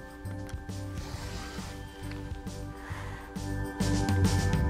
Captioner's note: rotary cutter slicing